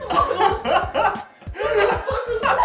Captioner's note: laughing